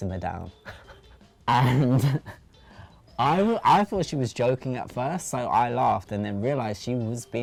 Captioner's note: laughs